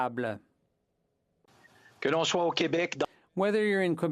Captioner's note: some Applause